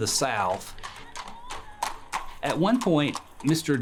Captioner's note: hooves clopping